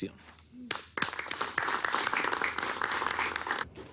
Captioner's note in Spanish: Aplausos